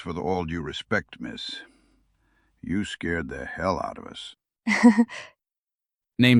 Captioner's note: nervous laugh